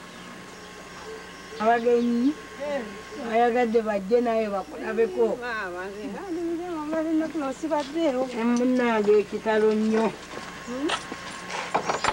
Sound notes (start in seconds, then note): 4.9 non-english speech